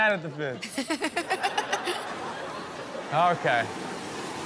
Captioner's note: laughs